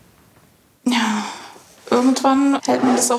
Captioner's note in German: seufzend